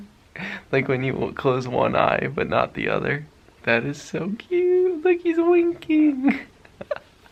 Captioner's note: laughs